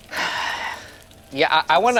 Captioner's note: sighs